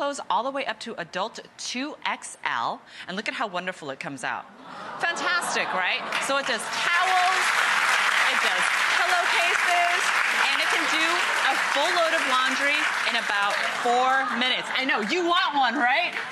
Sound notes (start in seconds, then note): 4.6 audience gasps; 6.3 audience applauds